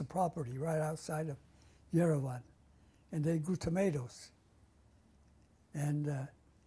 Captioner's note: non-english